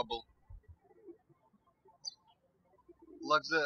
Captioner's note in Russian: птички щебечут